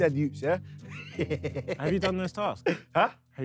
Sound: laughing

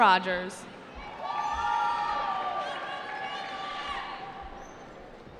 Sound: cheering

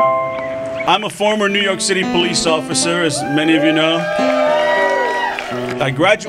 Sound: applause

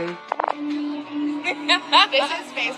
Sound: laughs

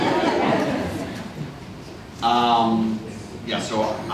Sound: laughter

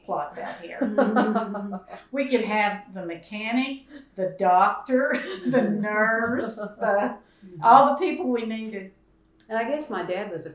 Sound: laughter

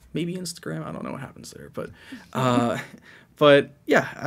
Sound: chuckles

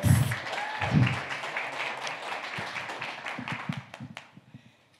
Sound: audience cheering

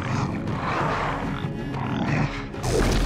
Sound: grunting

